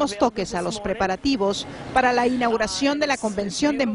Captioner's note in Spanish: audio en ingés